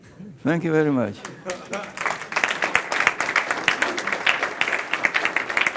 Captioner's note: applause